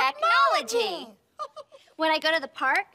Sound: chuckles

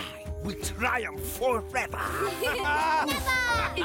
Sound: laughing

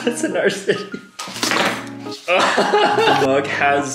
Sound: laughing

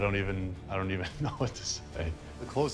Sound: laughs

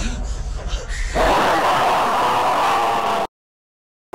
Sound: man screams

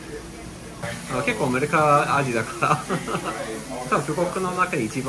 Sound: laugh

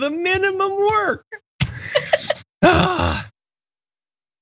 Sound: laugh

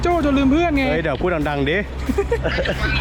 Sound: everybody laughs

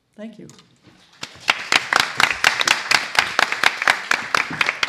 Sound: applause

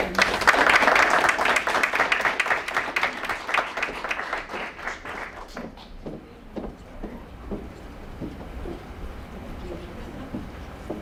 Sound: applause

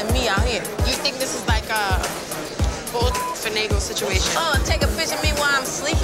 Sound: beep sound

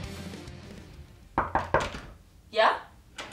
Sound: knocking

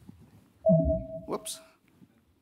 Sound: digital ding

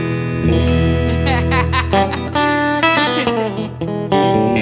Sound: both laugh

